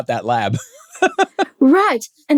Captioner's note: laughs